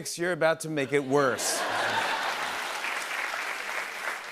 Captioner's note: laughter and applause